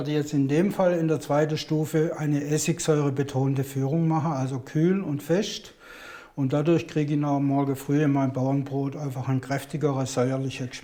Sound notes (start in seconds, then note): none